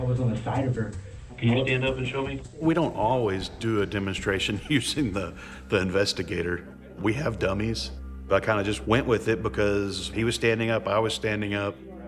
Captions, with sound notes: - We don't always do a demonstration (chuckling) using the investigator. We have dummies. But I kind of just went with it because he was standing up, I was standing up.